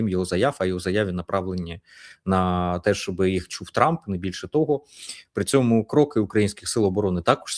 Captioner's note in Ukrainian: сопіння